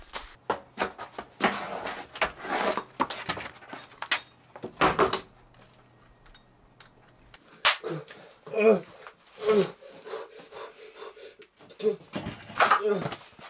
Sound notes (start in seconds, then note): 0.0 uneven footsteps; 7.4 fast heavy breathing; 8.4 loud grunts; 9.7 quick breathing; 12.7 grunt